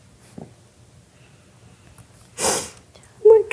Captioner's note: cries softly